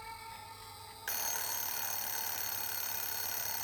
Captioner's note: alarm clock ringing